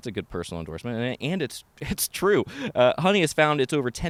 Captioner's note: chuckles